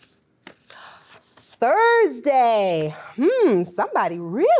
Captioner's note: gasps